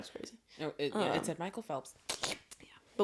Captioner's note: odd slurping noise